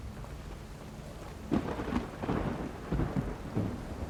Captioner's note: thunder rumbling